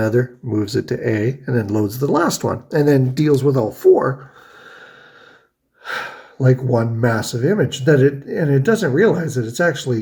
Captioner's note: sighs